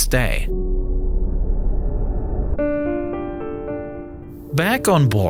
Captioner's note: pensive music; screen whooshing